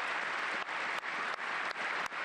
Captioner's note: cheers and applause